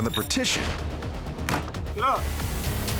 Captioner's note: bang